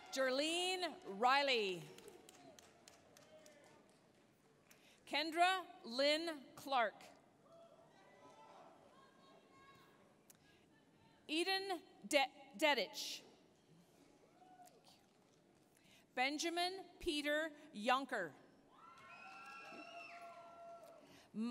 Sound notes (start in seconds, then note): 1.5 applause; 8.2 applause, cheering; 14.0 applause; 18.8 applause, cheering